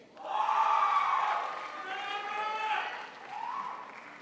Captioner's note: crowd applauds